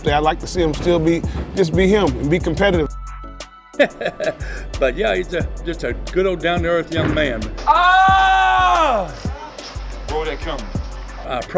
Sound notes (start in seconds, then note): 7.6 Bobby yelling